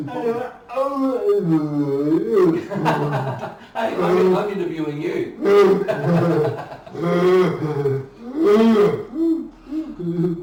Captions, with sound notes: What's important? - (laughing) I'm interviewing you.